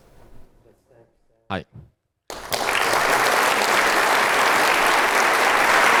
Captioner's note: applause